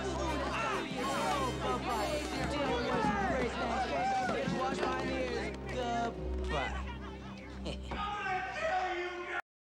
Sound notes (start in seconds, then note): 3.5 continue Screaming; 6.8 chuckles